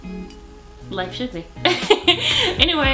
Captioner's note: laughs